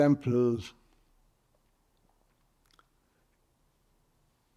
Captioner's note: pauses 6 seconds